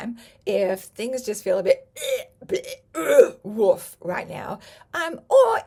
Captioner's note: retches